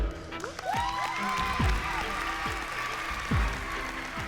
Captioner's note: cheering